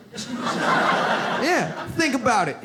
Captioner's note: audience laughs